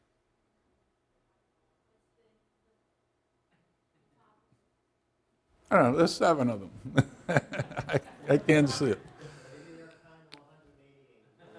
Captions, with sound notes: I don't know, there's seven of them. (laughs) I can't see it.